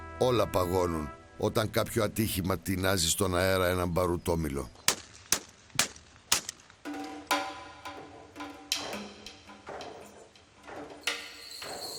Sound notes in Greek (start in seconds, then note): 4.8 ήχοι πυροβολισμών; 6.8 μουσική κρουστών